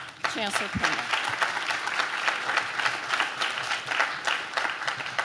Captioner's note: audience claps